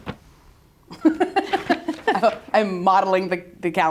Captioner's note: both laughing